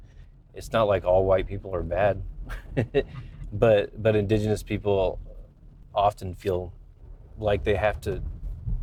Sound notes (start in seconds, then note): 2.4 laugh